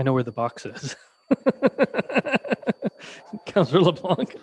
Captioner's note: crowd laughing